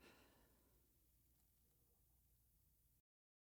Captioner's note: sigh